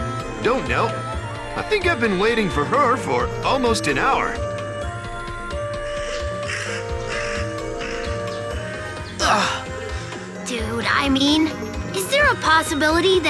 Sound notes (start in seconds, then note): 9.2 sigh